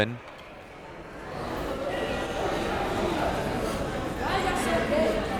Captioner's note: crowd members talking